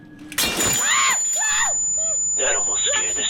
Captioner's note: window shattering; Gessica screaming